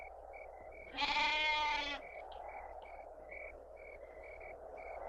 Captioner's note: goat bleating